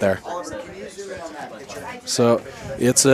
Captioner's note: indistinct chatter